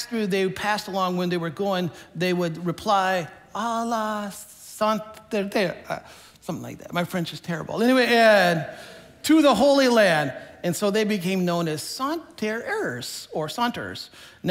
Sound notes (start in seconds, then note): 3.8 speaking in foreign language